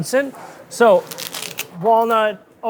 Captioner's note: stems crunching